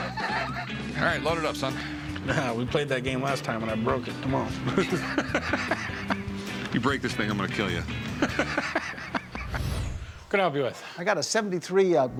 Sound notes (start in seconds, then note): 4.6 laughter; 8.0 laughs